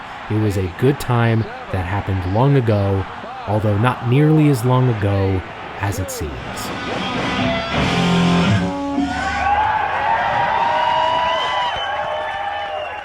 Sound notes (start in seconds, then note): 9.3 crowd cheering